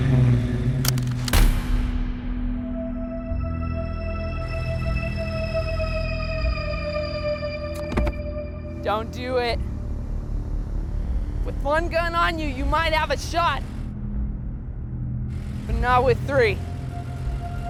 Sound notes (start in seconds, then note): 0.8 gun clacks; 1.8 intense music; 7.5 gear shifts